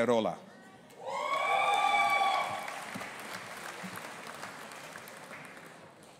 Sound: audience applauding and cheering

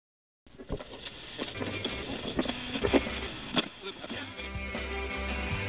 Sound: radio tuning in; radio music

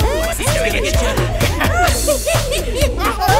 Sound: Sheila moans; John laughs hysterically

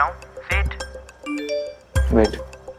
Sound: message tone beeping

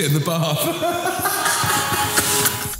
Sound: laughs

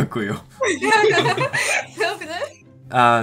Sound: Ukrainian; Polish

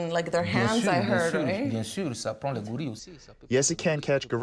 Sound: through translator

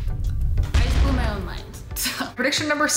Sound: kaboom!

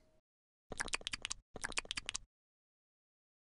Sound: jess eating sound

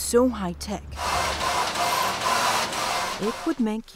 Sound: machinery grinding

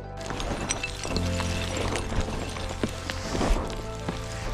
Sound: rocks crashing

